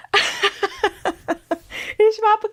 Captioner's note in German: gelächter